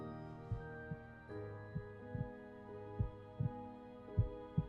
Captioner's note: the faint sound of a heartbeat